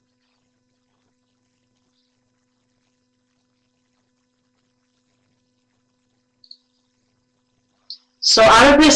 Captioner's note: no sound